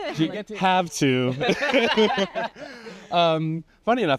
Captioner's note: laughs